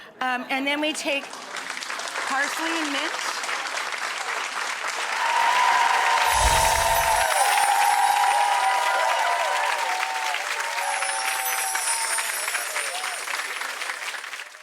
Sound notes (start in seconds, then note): 3.2 audience applauding; 5.5 audience cheering